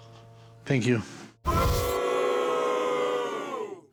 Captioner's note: crowd boos